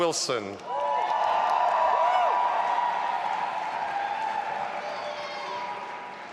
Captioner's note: audience applauding and cheering